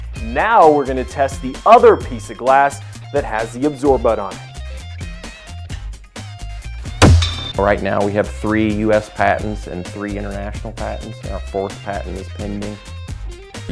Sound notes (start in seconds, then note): 7.0 thud